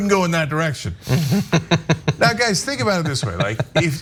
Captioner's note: laugh